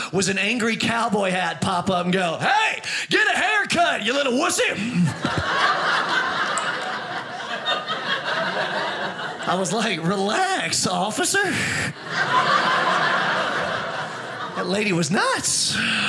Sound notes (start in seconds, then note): 4.8 audience laughing; 11.5 audience laughing